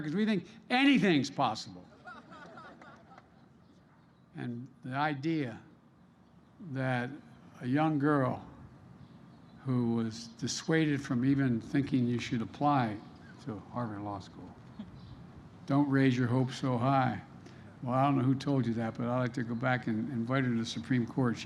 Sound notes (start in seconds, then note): 1.9 laughter